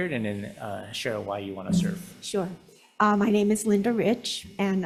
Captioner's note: none